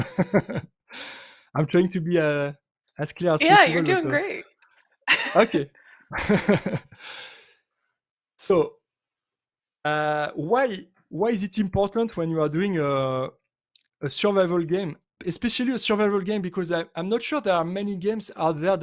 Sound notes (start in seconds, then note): 0.0 chuckles; 5.1 laughs